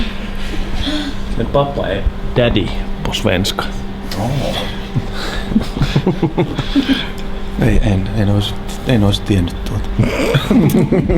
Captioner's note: everyone laughs